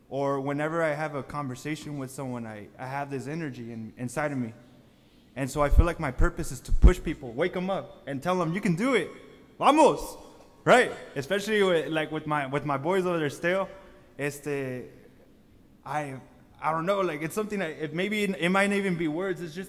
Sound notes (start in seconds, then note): 9.7 speaks foreign language